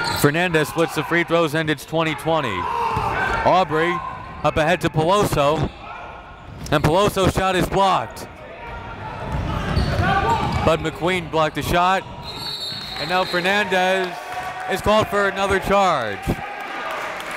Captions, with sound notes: Fernandez splits the free-throws and it's 20-20. Obrey up ahead to Peloso. And Peloso's shot is blocked. Badhi McQueen blocked the shot. (whistle blows) And now Fernandez is called for another charge.